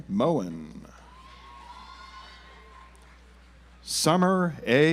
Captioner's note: audience applauds